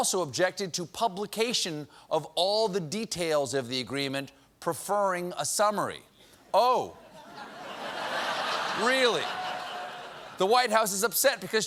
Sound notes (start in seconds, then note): 7.1 laughter